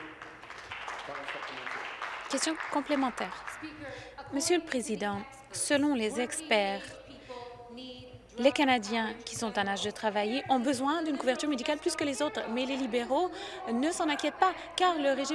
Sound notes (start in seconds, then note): 3.7 applause